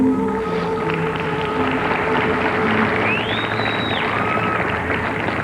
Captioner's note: audience cheering and applauding